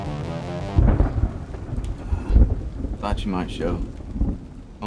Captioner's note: tense music continues; thunder rumbling